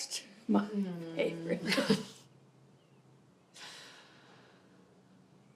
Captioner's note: Kimberly chuckles